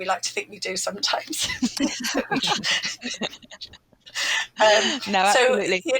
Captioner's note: laughter